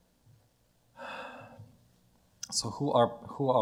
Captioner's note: sighs